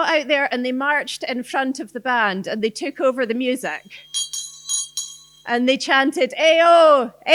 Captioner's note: bell rings